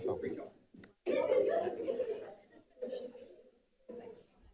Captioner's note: light chatter